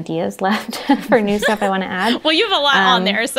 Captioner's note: they laugh